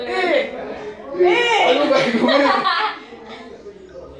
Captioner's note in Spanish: Risas